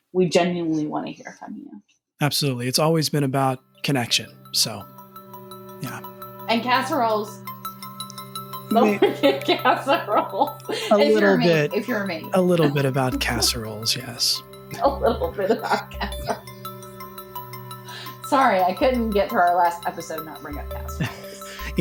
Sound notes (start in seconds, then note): 14.7 laughing